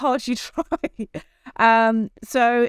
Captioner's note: chuckles